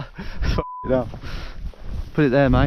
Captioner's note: beep